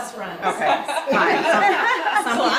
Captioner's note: all laughing